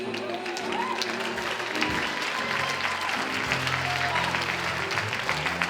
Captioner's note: audience cheers and applauds